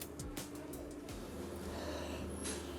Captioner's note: inhaling